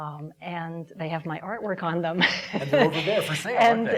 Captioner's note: laughing